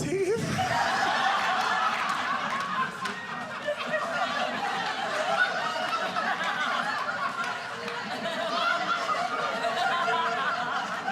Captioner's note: audience laughing